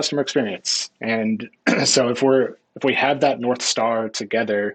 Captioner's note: clearing throat